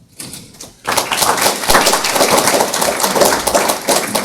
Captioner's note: audience applauds